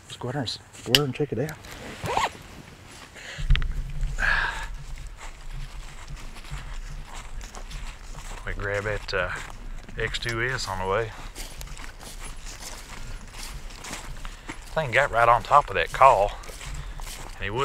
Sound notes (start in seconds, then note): 3.1 exhaling